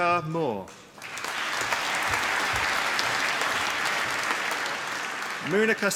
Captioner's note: applause